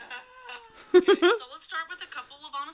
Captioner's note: giggles